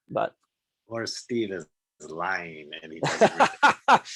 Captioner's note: bold Voice; laughing